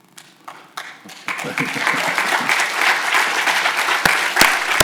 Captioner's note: audience applauds